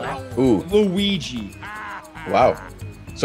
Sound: laugh

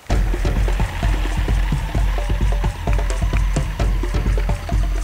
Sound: Jeep drives off; upbeat music

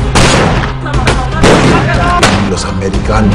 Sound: gun fires

